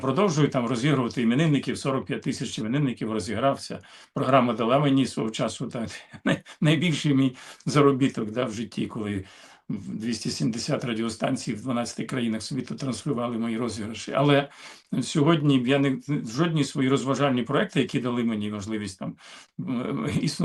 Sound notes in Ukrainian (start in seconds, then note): 14.5 сопіння